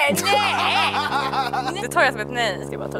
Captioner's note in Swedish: Nöjt skratt